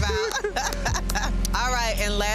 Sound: laughing

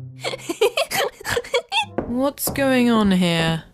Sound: giggles

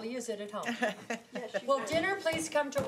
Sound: laughs

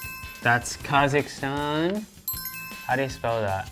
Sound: bell sound

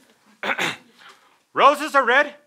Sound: clears throat

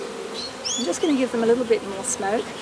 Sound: bees buzzing

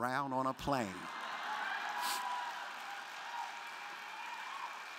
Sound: crowd laughing

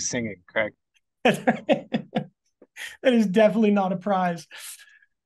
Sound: laughs

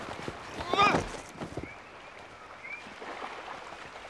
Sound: groan

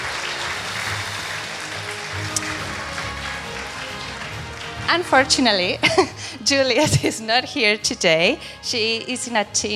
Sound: applause

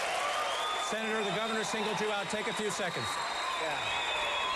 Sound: applause

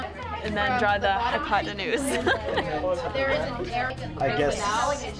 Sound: laughing

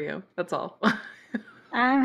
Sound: laughs

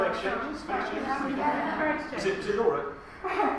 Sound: audience laughs

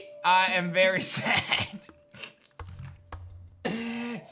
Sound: chuckles

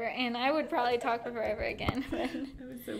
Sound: both laughing

